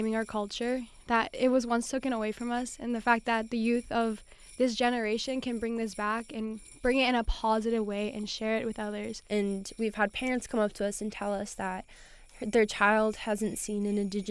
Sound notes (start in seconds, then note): none